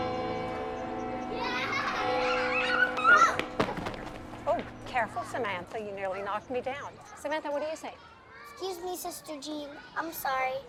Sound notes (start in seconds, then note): 1.2 children laughing and shouting